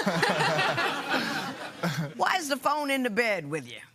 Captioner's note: laughter